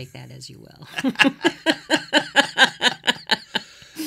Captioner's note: laughing